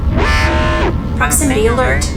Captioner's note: alarm blaring